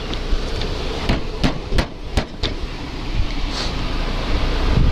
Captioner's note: hand thumping